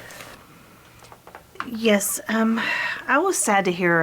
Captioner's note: none